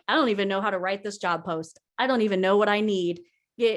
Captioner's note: none